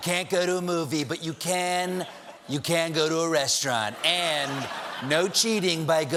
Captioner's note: laughter